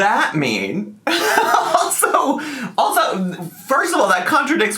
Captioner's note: laughing